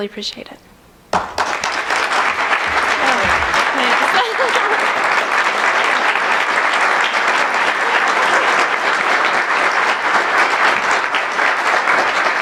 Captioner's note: applause